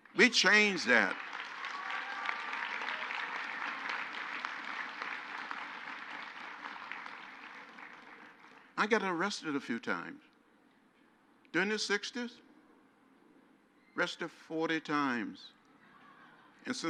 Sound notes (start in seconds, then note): 3.6 crowd applauds